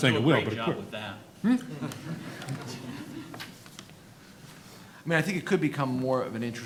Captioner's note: audience laughing